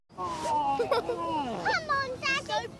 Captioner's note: child giggling